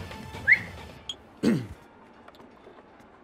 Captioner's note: Whistles and clears throat